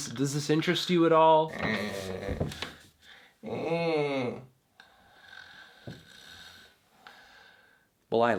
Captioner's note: more snoring